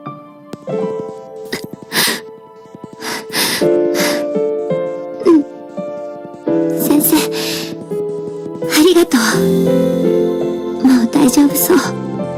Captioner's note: sobbing